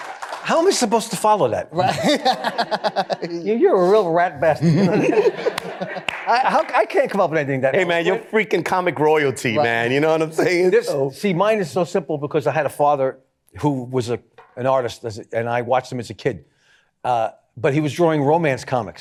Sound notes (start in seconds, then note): 1.8 laughing; 4.5 laughter